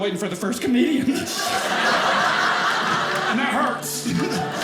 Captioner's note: audience laughing